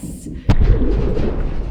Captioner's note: the sub crashes